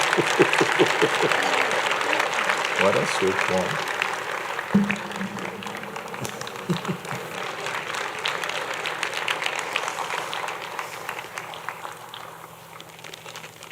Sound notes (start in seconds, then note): 3.0 laughs